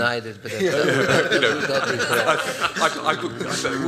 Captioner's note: laughs